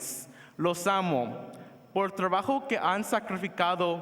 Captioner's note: foreign language